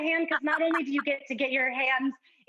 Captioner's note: laughs